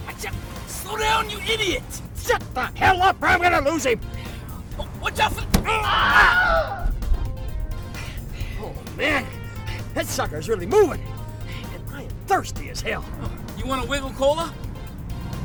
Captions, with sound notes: - Watch it. Slow down, you idiot. - Shut the hell up, or I'm gonna lose him. - Watch out for the- (pedestrian thuds) (pedestrian howls) - Oh man. That sucker's really moving. And I am thirsty as hell. - You want a Wiggle Cola?